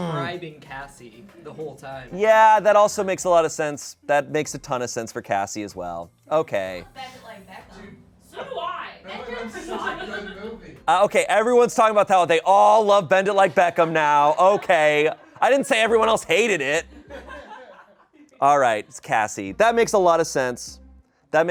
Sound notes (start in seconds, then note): 16.5 audience laughing